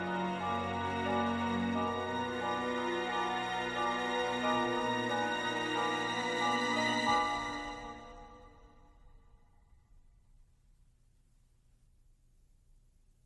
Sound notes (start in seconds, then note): 7.6 silence